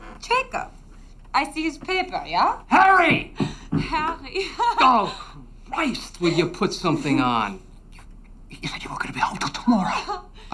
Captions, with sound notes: Jacob. I see his paper, yah? - Harry! - Harry. (laughs) - Oh, Christ! Will you put something on? - You said you weren't gonna be home till tomorrow.